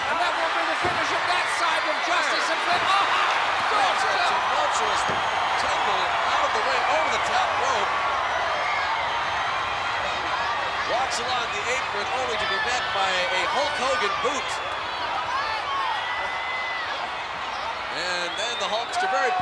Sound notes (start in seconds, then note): 2.9 body thudding; 15.4 crowd clamoring